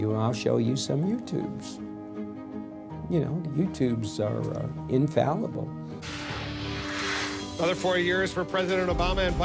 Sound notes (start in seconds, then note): 6.0 air whooshes